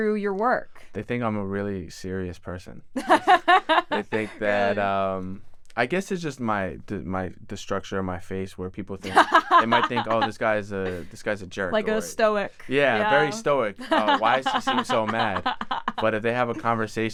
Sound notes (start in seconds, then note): 3.0 laughs; 13.8 laughs